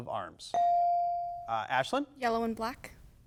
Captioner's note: bell dings